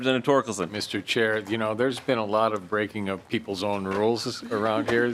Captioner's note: laughing